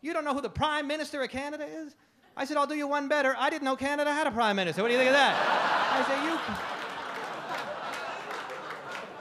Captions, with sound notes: "who the Prime Minister of Canada is?" I said I'll do you one better, I didn't know Canada had a Prime Minister. What do you think of that? (audience laugh)